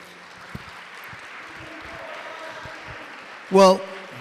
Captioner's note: applause